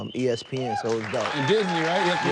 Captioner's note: audience applauding